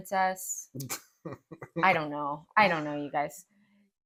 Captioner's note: laugh